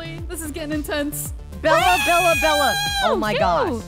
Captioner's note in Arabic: تصرخ